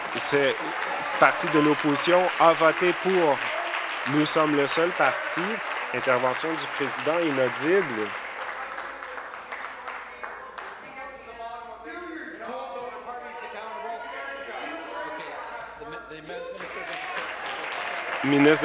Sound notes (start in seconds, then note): 4.8 applause; 9.0 continued applause